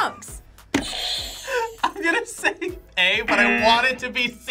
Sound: laughs; buzzer rings

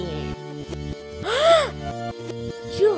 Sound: gasp

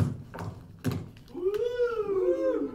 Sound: whooping

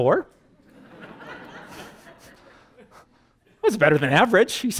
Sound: audience: Laughter

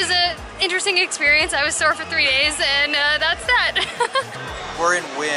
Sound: laughter

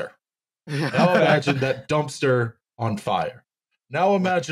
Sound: all laughing

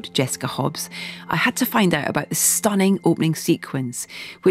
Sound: none

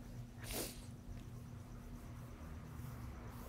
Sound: sniffling

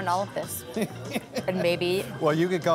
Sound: chuckles

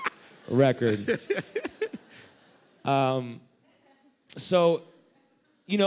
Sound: laughter

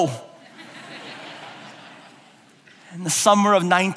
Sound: laughing

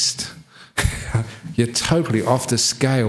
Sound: laugh

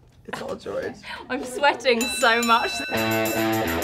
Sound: bell rings; dramatic music

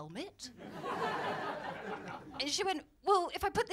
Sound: laughter

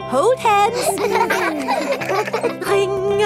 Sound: giggling

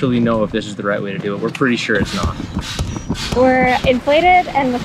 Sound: air pumping

